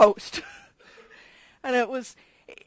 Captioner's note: laugh